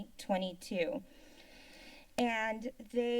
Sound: silence

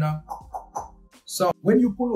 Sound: knock-knock-knock

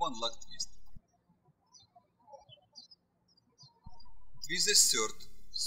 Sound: birds chirping

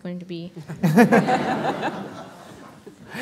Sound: laughter

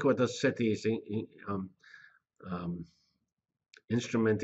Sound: pause

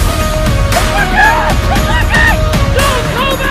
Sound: whooping

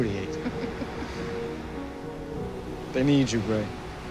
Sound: chuckles

